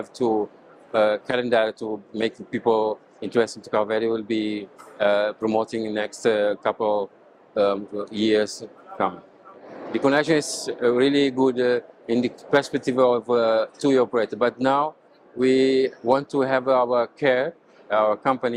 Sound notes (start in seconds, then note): 8.6 soft background chatter